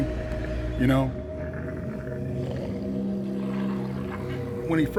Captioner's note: animal growling; haunting music